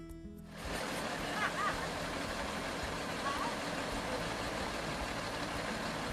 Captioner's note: engine roars; laughing